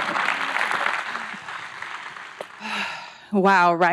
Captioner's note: audience applauds; breathes deeply